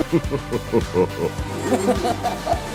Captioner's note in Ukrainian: Зловіщий сміх